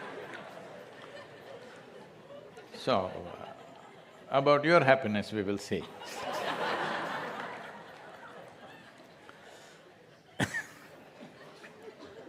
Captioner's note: laughter; laughter